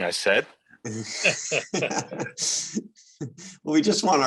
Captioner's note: light laughter